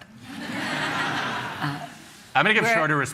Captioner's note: laughter